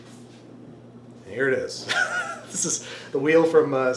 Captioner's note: laughs